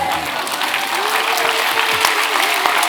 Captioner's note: clapping